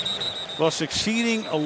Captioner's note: whistling